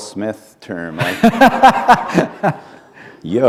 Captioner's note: laughter